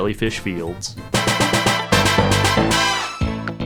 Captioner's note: bam bam bam bam bam bam bam-BAM